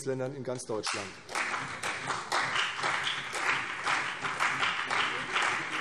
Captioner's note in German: Beifall CDU und BÜNDNIS 90/DIE GRÜNEN